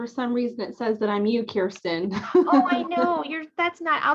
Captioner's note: laughter